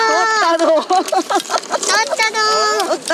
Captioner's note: laughs